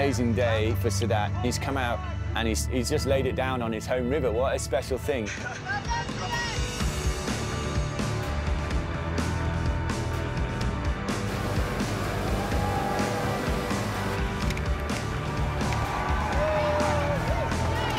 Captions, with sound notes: He's come out and he's just laid it down on his home river. (CHEERING)